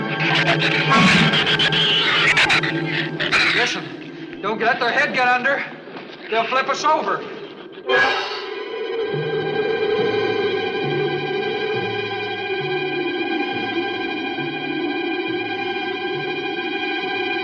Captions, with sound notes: (shrews screech) Listen. Don't let their head get under. They'll flip us over! (tense music continues) (wind howls)